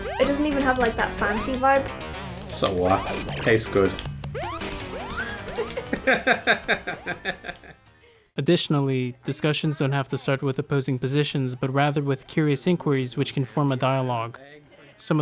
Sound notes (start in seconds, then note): 5.0 chuckling